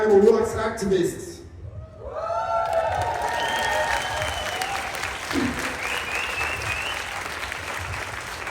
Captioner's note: applause